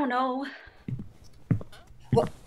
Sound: footsteps

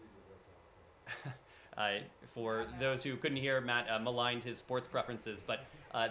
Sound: laughter

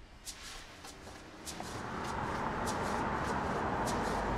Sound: engine noise

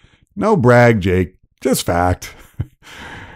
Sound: laughter

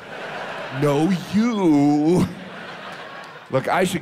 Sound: audience laughs

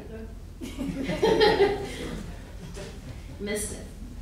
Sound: laughing

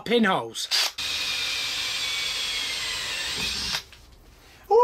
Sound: drill buzzing

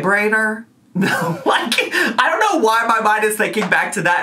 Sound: laughs

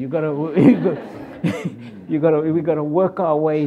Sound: audience laughs

